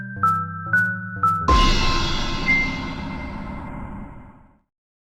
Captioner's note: logo crashes